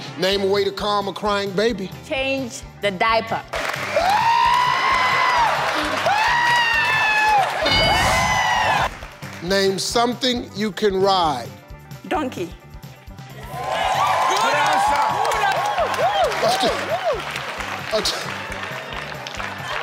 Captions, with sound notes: - Name a way to calm a crying, baby. - Change the diaper. (screaming) (audience applauding) - Name something you can ride. - Donkey. (audience cheering)